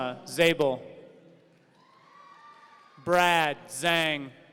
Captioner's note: audience cheering